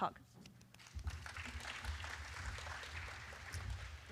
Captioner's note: applause